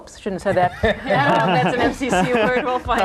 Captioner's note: group laughing